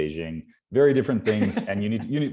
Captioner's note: laughing